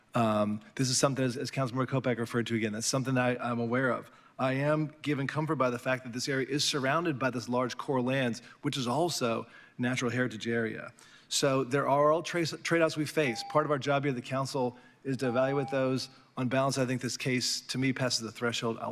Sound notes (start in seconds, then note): 13.2 beep